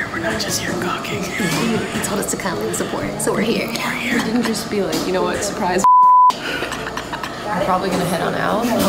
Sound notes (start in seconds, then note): 5.8 beep